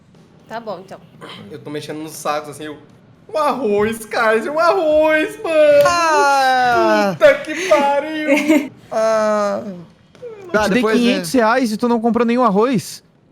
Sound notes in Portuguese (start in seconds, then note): 8.2 risadas